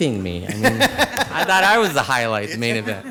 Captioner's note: laughing